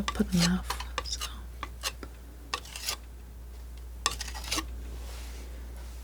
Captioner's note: scratching